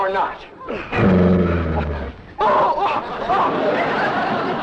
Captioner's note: Duke growls